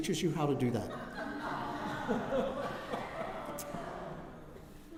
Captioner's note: laughter